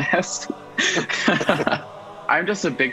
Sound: chuckles

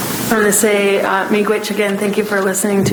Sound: speaking in foreign language

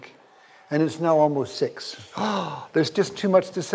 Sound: gasping

